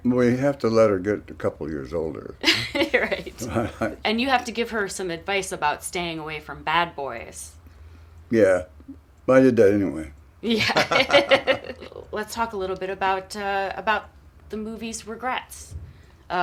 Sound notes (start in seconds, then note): 10.5 laughter